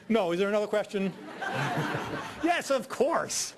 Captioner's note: audience laughing